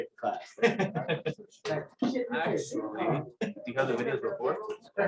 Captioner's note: laughter